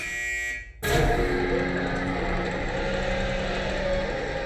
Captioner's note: buzzing; cranking